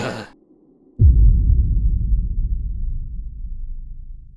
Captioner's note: dramatic thud